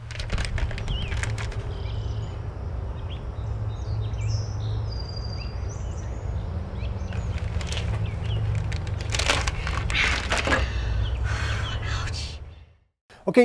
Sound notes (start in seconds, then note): 0.0 bag crumples; 2.3 birds chirping; 10.6 exhales deeply